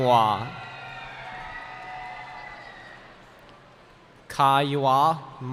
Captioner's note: cheering